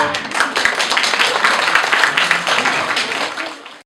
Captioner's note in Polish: oklaski